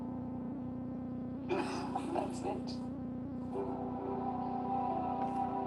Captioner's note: laughs